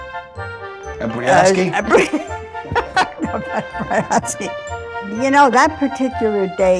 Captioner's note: laughs